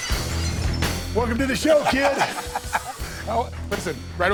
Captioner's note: Bubba Ray laughs